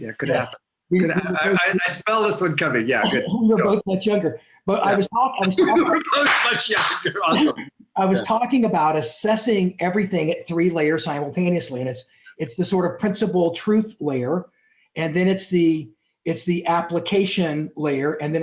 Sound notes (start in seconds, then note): 5.5 clapping hands; 7.1 laughs